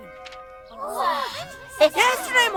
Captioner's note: all gasping